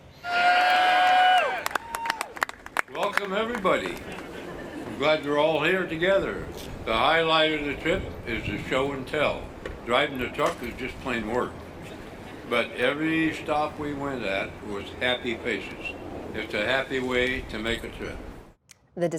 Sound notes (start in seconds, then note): 2.9 cheering